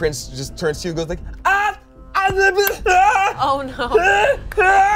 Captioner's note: yells